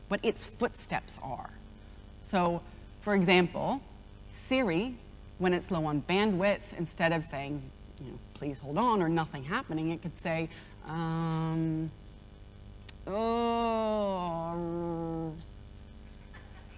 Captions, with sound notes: what it's footsteps are. So for example, Siri, when it's low on bandwidth instead of saying, please hold on or nothing happening it could say, (groans)